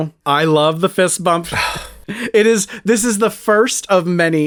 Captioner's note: annoyed sigh